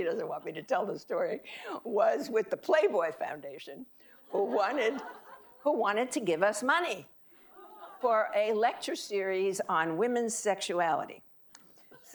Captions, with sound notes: she doesn't want me to tell the story, was with The Playboy Foundation who wanted (audience laughing) to give us money for a lecture series on women's sexuality.